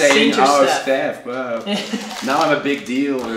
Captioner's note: laughing